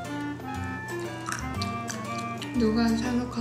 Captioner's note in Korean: 와그쟉 와그쟉